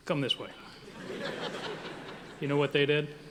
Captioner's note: audience laughing